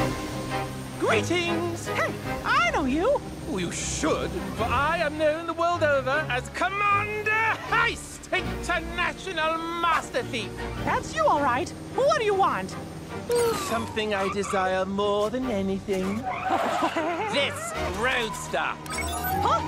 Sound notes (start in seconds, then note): 16.6 tires screech; 18.8 beeps